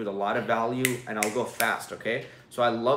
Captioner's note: fingers snapping